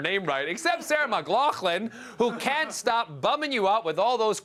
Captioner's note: laughter